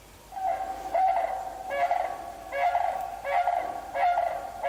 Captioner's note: cranes chirping lightly